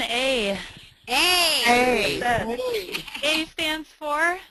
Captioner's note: voiceover